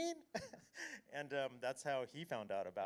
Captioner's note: chuckles